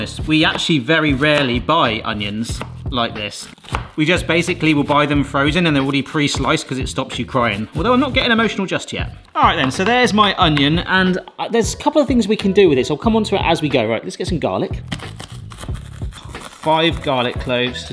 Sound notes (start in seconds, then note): 14.8 garlic crunching